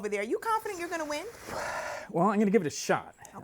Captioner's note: inhaling deeply